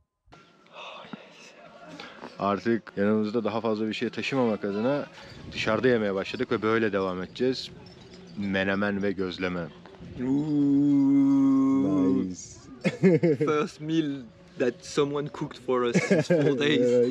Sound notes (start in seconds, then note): 9.8 whooping